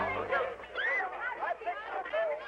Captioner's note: scream; shouting